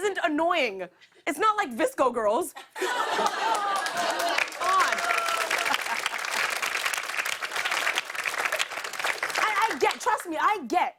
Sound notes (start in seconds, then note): 2.6 laughter; 5.9 applause